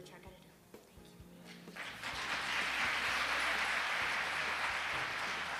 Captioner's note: audience claps